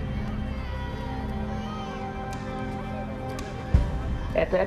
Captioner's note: children talking in background